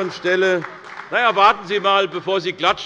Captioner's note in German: Demonstrativer Beifall bei Abgeordneten der SPD